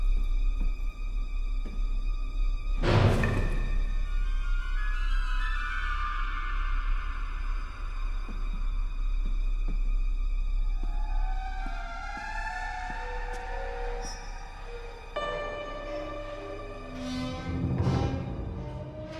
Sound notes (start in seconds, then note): 0.2 suspenseful music; 3.3 door banging; 6.5 suspenseful music